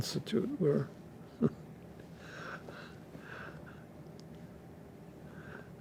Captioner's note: laughing